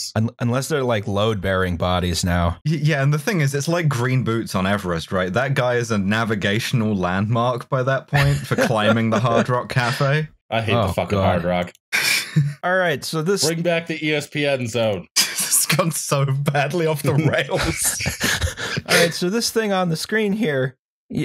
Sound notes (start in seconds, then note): 8.1 laughter; 17.0 laughing; 17.1 laughter